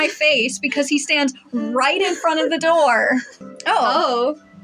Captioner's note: chuckle